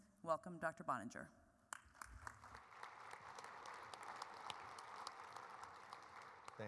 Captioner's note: applause